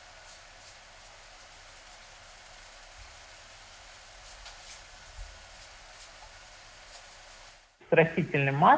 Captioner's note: salt shaker noises